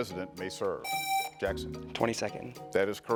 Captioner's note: buzzer rings